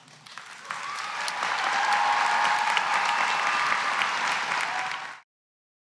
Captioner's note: cheers and applause